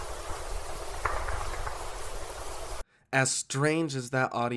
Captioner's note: chest slapping